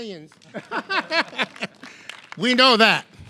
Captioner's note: laughing